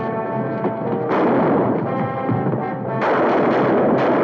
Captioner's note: guns firing